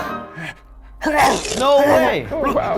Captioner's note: flea retches